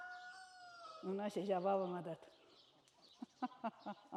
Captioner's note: laughs